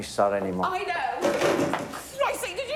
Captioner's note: clattering